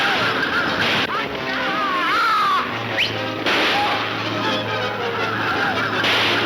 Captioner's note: whistles; gunshots banging